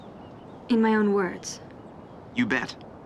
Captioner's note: none